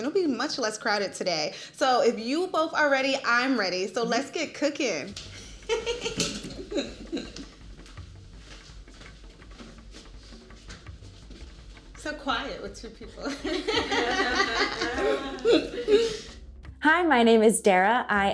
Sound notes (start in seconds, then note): 13.3 everyone laughing